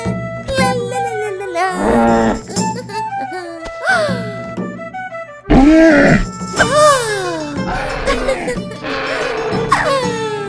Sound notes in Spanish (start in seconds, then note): 1.8 Gruñido de alpaca 100% real no FAKE; 3.6 sopresa con retraso